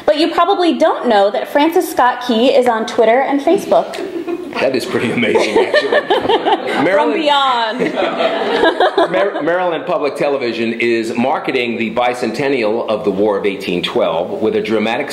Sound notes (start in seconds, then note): 4.8 laughter